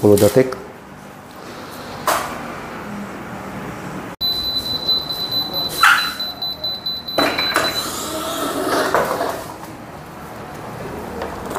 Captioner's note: press machine noise